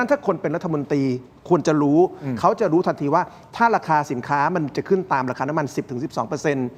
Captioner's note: clears throat